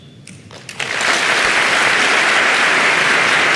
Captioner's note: applause